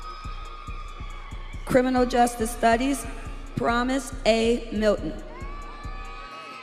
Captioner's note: audience cheering